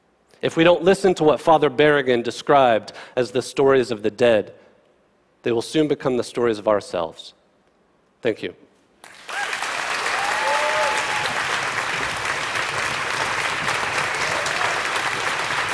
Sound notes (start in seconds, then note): 9.0 applause